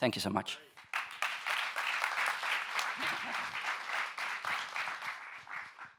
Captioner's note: audience members applauding